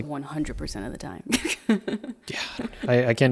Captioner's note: laughing